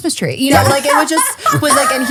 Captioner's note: laughing